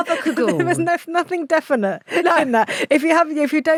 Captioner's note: laughs